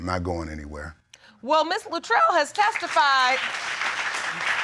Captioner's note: audience applauding